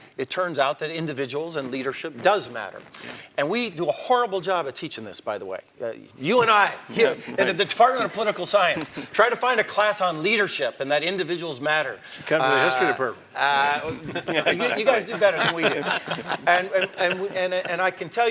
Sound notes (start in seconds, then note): 13.3 laugh